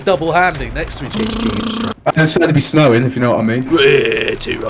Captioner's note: raspberries